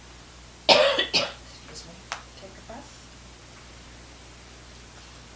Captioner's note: coughing